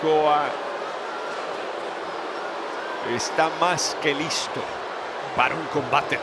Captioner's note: applause